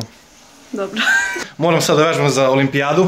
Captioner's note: laughs in Serbian